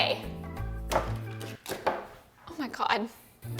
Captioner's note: treat rattling